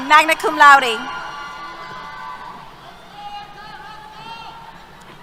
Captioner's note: cheers